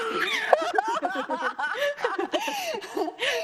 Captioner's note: laughs